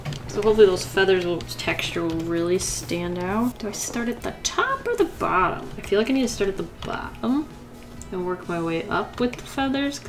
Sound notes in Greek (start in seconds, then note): none